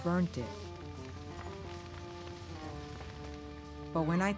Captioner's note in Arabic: طقطقة النار